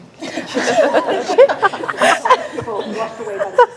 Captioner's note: group laughs